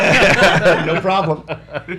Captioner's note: laughs